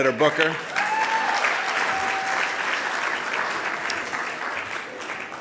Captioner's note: audience applauding